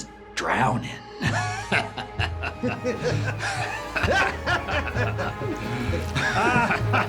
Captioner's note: maniacal laughter